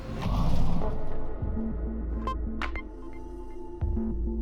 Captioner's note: explosion echoes